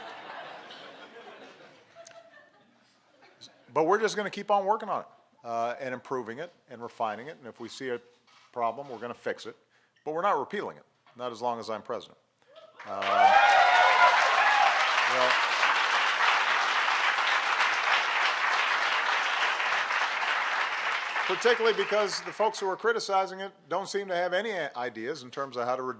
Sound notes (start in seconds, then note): 0.0 laughter; 16.8 applause